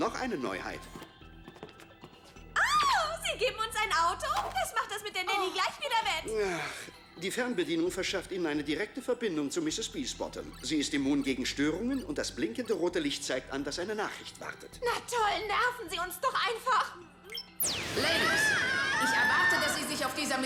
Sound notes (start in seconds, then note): 6.4 sigh